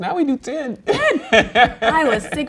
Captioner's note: laughs